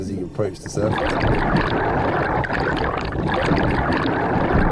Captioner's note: water burbling